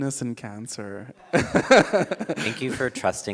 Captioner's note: laughing